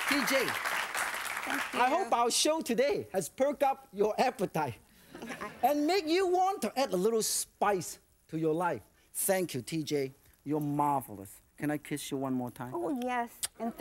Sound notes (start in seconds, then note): 4.9 crowd; 5.1 laughter